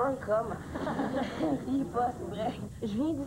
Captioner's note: Rires